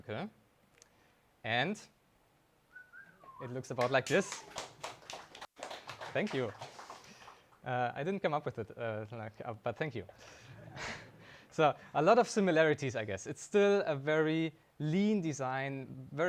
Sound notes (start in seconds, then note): 2.7 attendee whistling; 3.7 audience applauding; 10.9 audience laughing